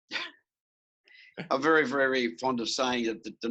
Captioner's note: laughs